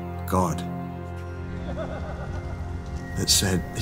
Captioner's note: men laughing